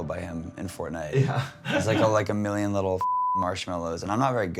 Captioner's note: laughs